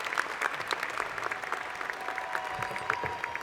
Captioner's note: cheers and Applause